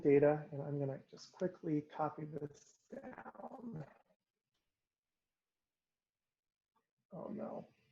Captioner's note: pause